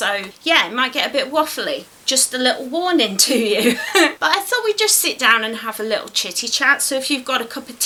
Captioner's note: laughs